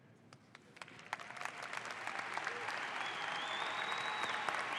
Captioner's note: audience applauds